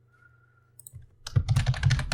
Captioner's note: typing sound